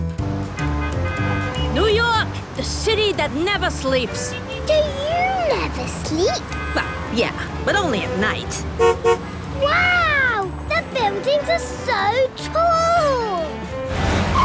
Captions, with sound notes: (upbeat music, honking) New York! The city that never sleeps! - Do you never sleep? - Well, yeah. But only at night. (honks) - Wow! The buildings are so tall!